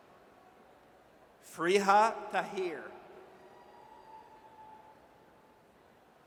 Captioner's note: audience cheers